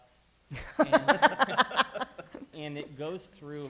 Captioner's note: laughter